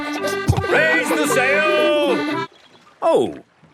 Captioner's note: kids laughing